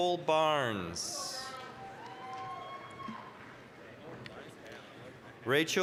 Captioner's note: applause, cheering